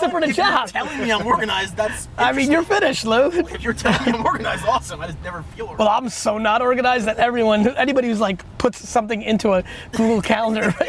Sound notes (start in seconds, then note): 3.2 laughs